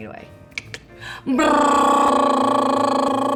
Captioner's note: trills